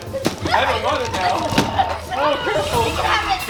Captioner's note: yell